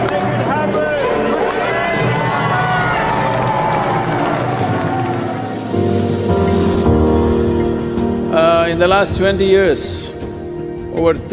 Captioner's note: cheering/Applause